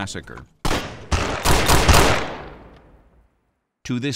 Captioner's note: shooting